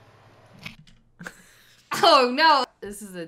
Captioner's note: cracks up